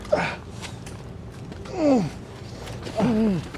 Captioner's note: grunts in pain